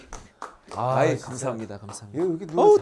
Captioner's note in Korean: 감탄